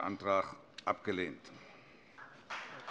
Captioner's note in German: Beifall CDU, BÜNDNIS 90/DIE GRÜNEN und vereinzelt DIE LINKE